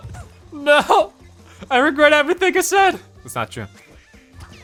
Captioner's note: humming merrily